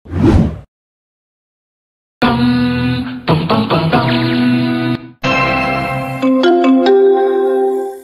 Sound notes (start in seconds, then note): 0.1 whoosh Sound Effect; 5.2 marimba